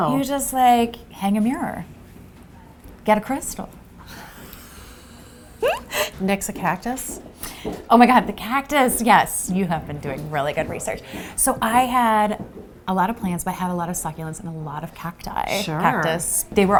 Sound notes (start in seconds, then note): 5.6 laugh